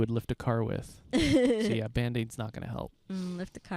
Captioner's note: laughing